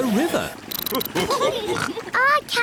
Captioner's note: all laugh